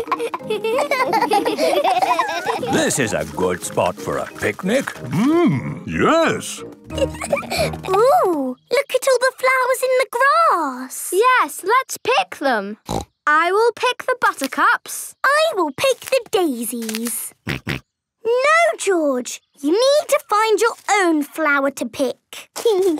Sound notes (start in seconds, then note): 0.0 snorting and laughter; 6.9 giggling; 12.8 snorting; 17.4 George snorting